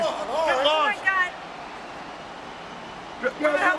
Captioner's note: overlapping chatter